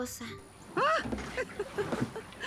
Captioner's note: yelps